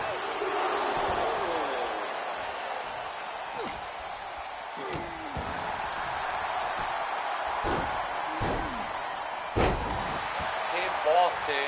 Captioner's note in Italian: urlo